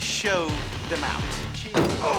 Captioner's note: groans